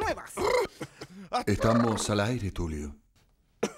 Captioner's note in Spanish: Con voz seductora y ronca